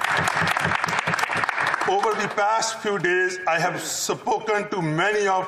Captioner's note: applause